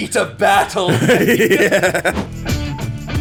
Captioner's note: laughing; upbeat music